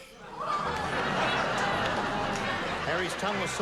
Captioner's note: laughter